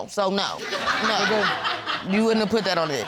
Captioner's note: audience laughing